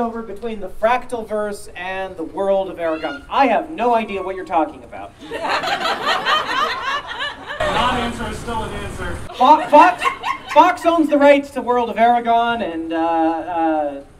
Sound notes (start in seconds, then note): 5.2 audience Laughing